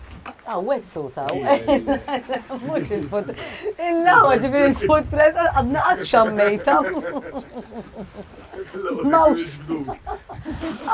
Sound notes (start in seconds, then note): 5.8 they both laugh